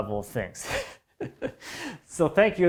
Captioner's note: chuckling